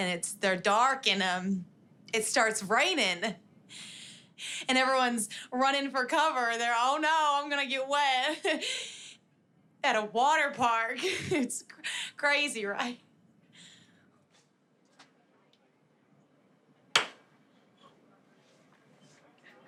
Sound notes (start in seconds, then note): 10.6 laughs; 16.4 claps